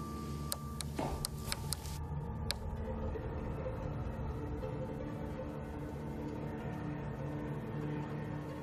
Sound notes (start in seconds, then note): 0.0 ominous music; 1.2 light switch clicking